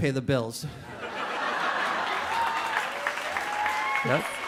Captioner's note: audience laughing